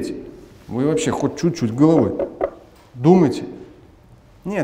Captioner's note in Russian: стук по столу